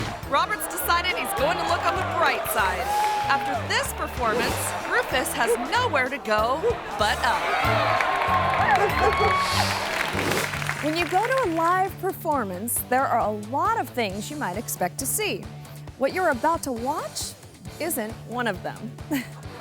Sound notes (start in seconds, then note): 7.5 crowd applauding; 8.6 dog barking; 9.8 audience clapping; 19.0 giggles